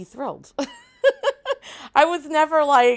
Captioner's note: laughs